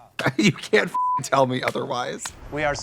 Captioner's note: beep